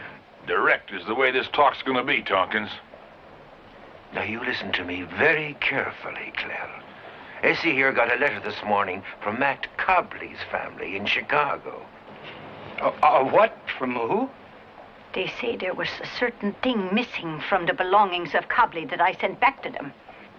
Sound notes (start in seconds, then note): 12.6 stuttering